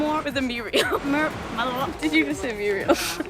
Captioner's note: funny noises